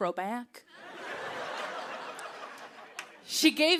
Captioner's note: laughter